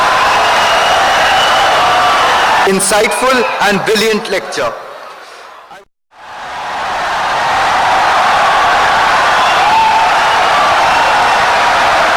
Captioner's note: wild applause and cheering for 17 seconds